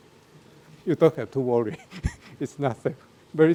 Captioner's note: laughs